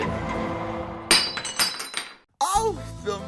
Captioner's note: glass falling